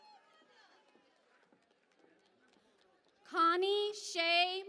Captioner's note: cheering and Applause